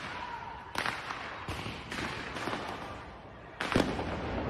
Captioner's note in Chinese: 槍聲